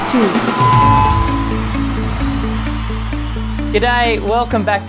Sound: audience cheering; bright music

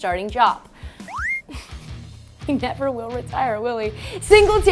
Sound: laughing

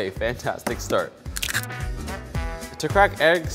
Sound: eggs cracking

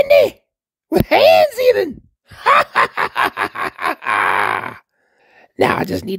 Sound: sinister laugh

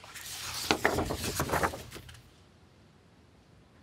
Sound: paper rustling

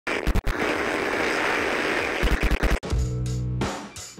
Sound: static crackles; chill hip-hop beats

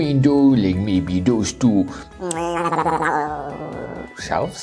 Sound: high-pitched babbling

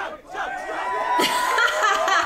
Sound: people cheering; laughs

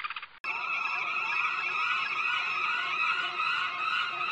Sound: birds screeching

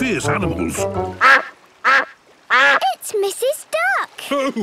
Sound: quacking

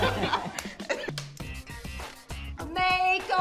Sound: loud giggling; light snapping

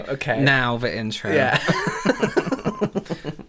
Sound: laughter

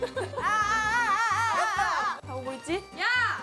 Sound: hahaha

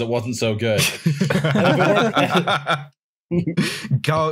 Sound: laughter

